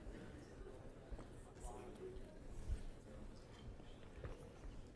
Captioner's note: students talking